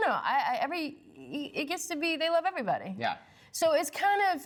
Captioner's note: none